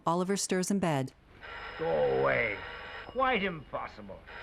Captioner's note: phone ringing